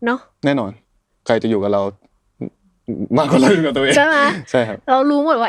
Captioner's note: laughs